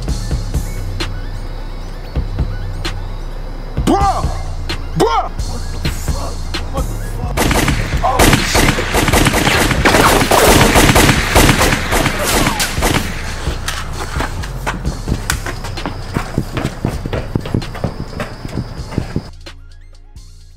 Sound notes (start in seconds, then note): 0.3 upbeat trap music continues; 7.3 guns firing; 7.7 gun firing; 15.6 upbeat trap music continues